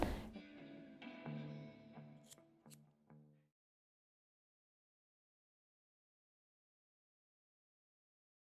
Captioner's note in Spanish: silencio